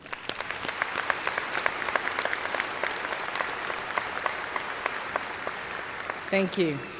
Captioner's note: applause